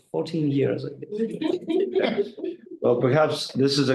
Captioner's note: group laughing